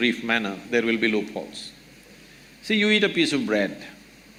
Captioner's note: none